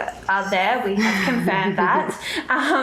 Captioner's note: laughs